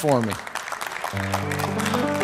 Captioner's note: applause; piano music